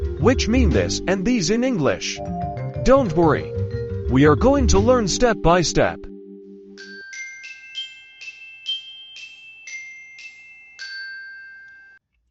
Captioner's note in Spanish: campana